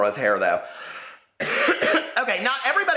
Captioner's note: coughs